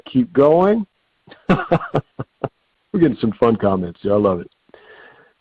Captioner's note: chuckling